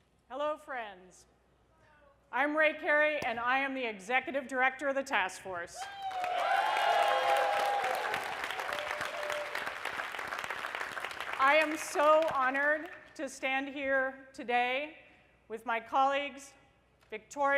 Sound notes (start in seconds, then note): 5.8 applause